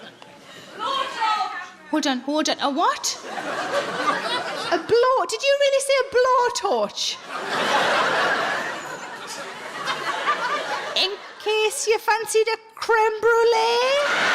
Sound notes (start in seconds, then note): 3.1 audience laughs; 7.2 audience laughs; 13.8 audience laughs